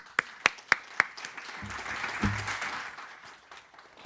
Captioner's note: audience applauding